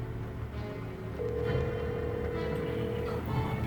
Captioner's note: phone ringing